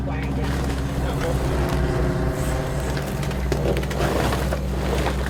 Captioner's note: plastic bags rustling